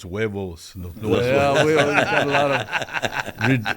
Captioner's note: laughter